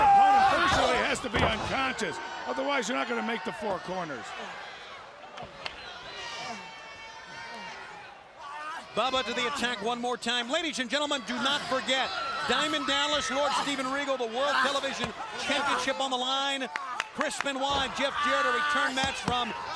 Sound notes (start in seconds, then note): 7.2 crowd chatter